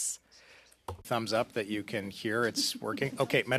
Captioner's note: speaking French